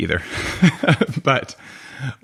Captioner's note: laughing